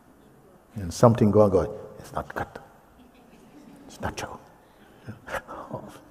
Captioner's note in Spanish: la mente susurra